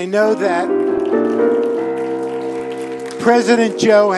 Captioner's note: applause